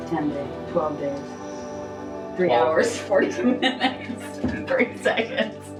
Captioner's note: laughs